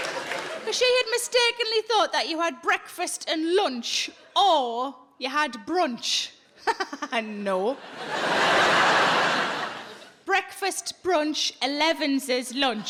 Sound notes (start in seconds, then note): 6.1 laughing; 7.7 audience laughing